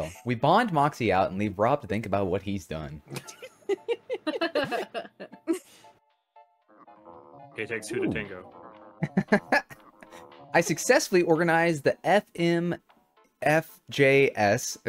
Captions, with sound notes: We bond Moxie out and leave Rob to think about what he's done. (laughing) - K-TEX who to Tango? (laughing) - I successfully organized the FMFJS,